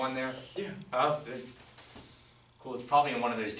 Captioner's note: voiceover